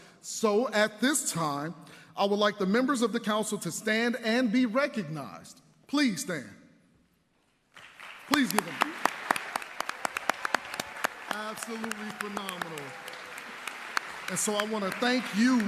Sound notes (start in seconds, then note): 5.4 applause